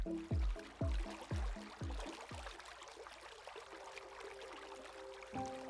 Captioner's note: water flowing; poignant music